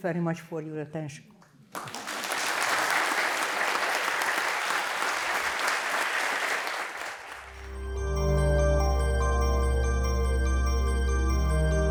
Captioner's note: applause